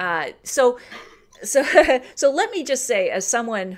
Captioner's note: laughs